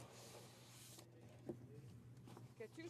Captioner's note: speaking French